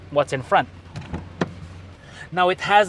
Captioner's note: door opens